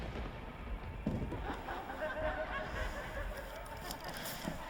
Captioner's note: voice laughing